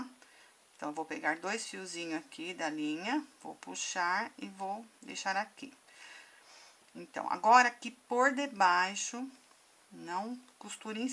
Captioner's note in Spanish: en español